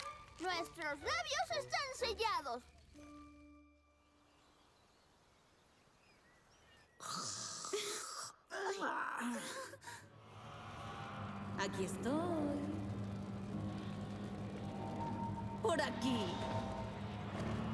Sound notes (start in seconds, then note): 6.9 snoring